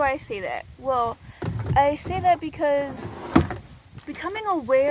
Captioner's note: dragging sounds